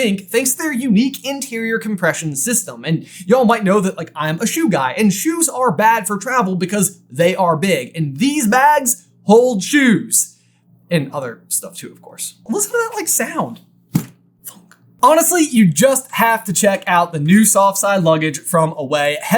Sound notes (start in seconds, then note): 13.9 soft thunk